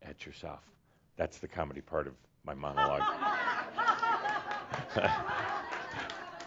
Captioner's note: laughs loudly along with audience laughter